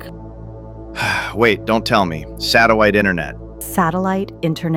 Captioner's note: sighs